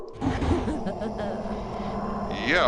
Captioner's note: Lizbeth Laughing